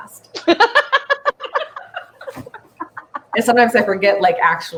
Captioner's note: laughing